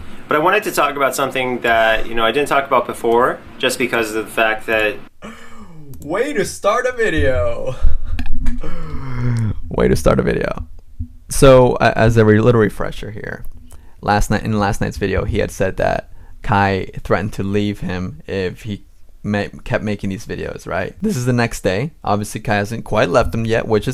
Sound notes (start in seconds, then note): 8.7 laughs